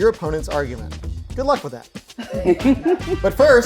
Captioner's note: laughing